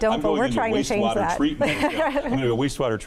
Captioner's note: chuckles